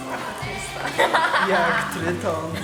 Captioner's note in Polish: śmiech